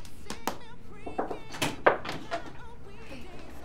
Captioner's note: knocking on door